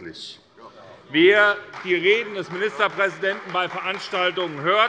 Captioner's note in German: Demonstrativer Beifall bei der CDU